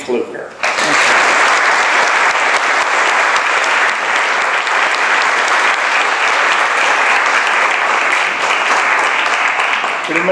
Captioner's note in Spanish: applause